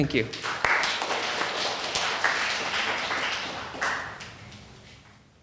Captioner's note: audience applauding